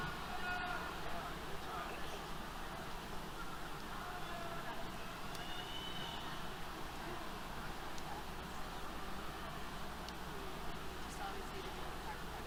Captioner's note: background Conversation